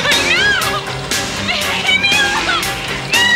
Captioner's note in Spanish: Gritos